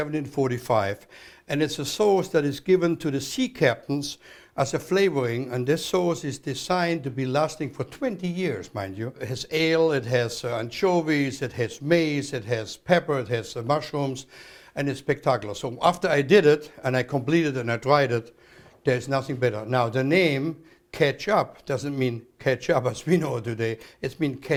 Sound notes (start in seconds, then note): none